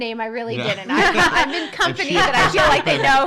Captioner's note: laughing